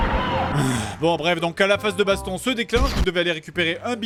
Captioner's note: sigh